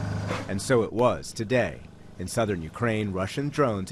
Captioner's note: voice-over